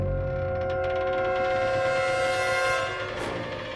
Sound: pipes creaking; suspenseful music

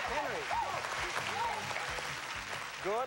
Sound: cheers and applause

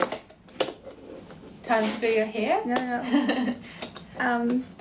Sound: chuckles

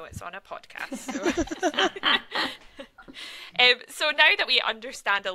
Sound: presenters laugh

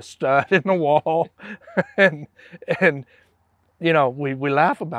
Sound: laughs

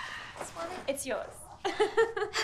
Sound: laughs

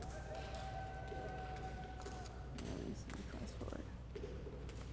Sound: cheers and applause

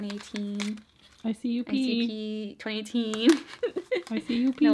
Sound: laughs

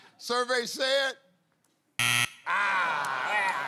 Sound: buzzer

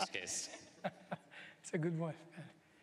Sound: laughter

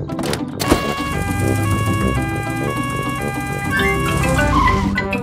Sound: siren wails

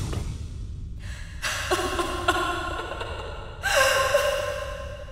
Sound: woman sobbing

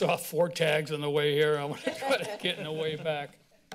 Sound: laughs

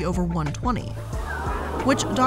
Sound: audience gasping

